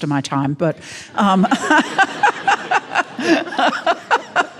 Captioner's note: all laughing